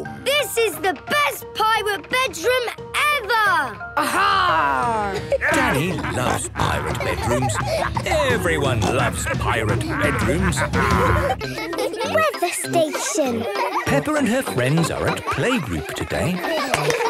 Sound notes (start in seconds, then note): 4.6 laughter; 10.6 laughter